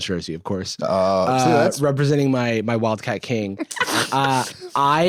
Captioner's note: laughs